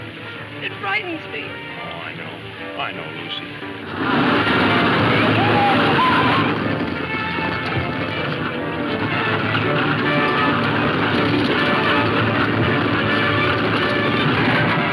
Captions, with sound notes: - Oh, I know. I know, Lucy. (horses galloping) - Yeehah!! (dramatic music playing)